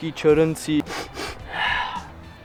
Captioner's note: sniffs the fragrances